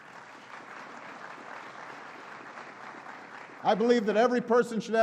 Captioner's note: applause